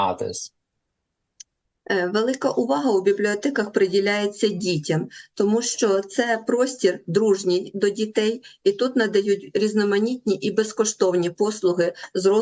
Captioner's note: foreign language